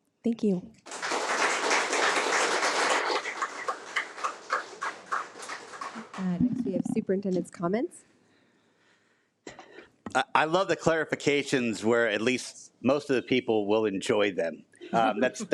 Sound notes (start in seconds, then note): 0.8 attendees applaud